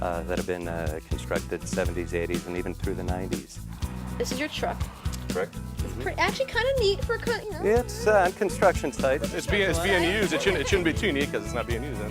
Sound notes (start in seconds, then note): 8.0 laughs